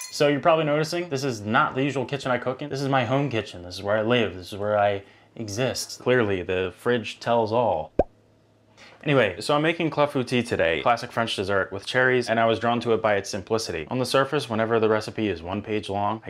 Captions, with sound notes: - So you're probably noticing, this is not the usual kitchen I cooking. This is my home kitchen. This is where I live. This is where I exist. Clearly the fridge tells all. (bubble pops) Anyway. So I'm making clafoutis today. Classic French dessert with cherries and I was drawn to it by its simplicity. On the surface, whenever the recipe is one page long,